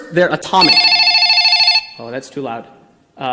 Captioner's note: phone ringing